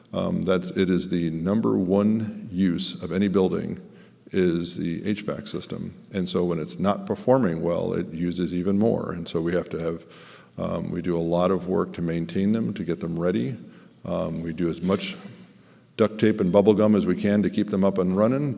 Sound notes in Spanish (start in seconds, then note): 5.9 hvac